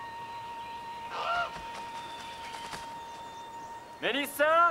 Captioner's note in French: le corbeau croasse